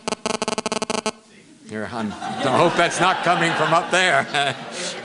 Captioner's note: audio feedback noise; laughter